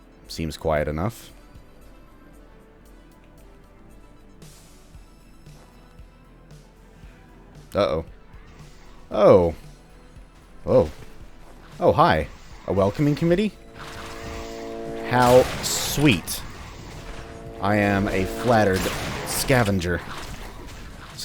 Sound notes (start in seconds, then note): 6.7 distant Bugdogs growl; 15.6 bam